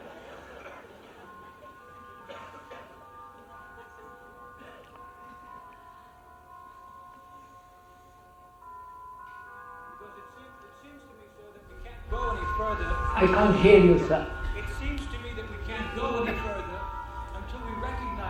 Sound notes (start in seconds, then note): 3.4 laughter